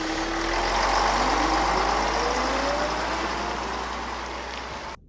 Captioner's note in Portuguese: Barulho de motor de onibus